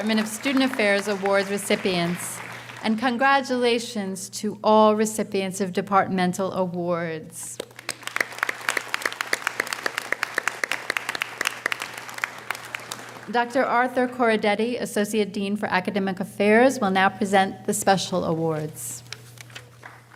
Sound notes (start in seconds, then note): 7.6 audience applauding